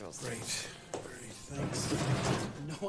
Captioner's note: opens drawer